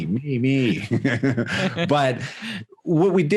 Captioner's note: laughing